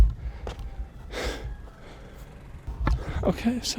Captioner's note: labored breathing